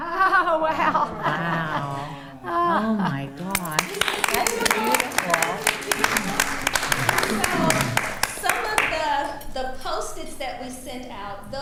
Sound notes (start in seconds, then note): 0.5 laughing; 2.7 attendees reacting positively; 4.1 attendees applauding; 4.1 attendees reacting positively